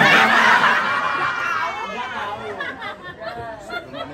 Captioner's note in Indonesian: tertawa